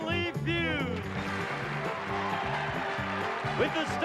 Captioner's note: applause